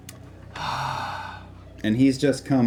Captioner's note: sighs